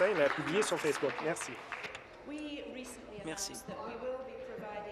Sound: applause

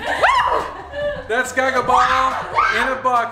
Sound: laughing; screams

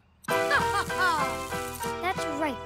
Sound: evil laughter

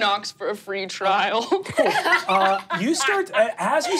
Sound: laughing

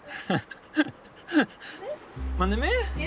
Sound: chuckles

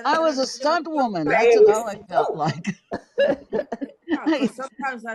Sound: all laughing

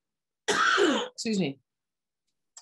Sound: coughs

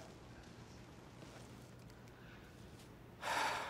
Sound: exhale

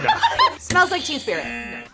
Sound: both laugh; buzzer; buzzer rings

